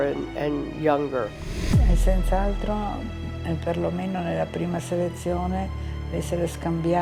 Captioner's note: speaking in foreign language